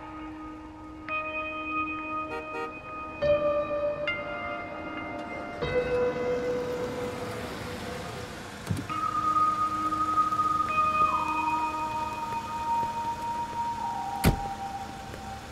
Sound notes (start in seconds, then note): 2.2 car honks; 5.5 car approaches; 8.6 car door opens; 14.1 car door shuts